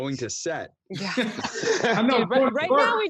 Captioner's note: everyone laughing